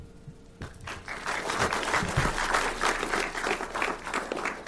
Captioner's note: audience applauds